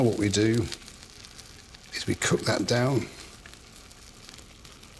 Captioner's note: none